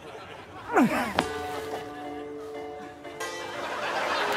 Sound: straining continues

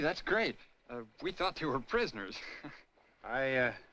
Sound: chuckles

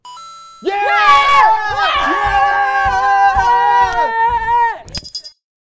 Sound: happiness noises

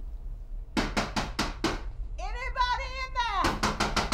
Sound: knocking

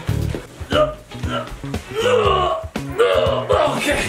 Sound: grunting

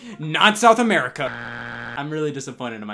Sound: buzzer beeps

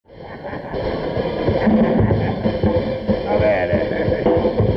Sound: laughing

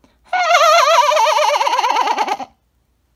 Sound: giggles and sharts

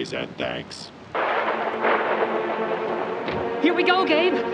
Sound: thunder crashing

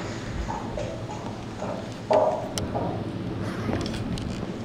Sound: sound of heels walking

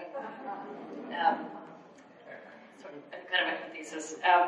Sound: audience laughs

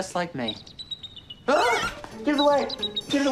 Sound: bees buzzing

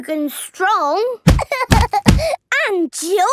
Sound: banging

